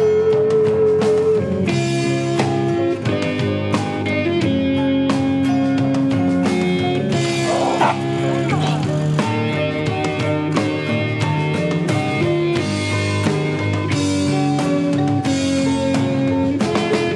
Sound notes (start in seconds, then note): 1.1 upbeat electronic music; 7.3 dog growls and barks; 9.4 upbeat music continues